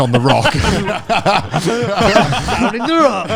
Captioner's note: all laughing loudly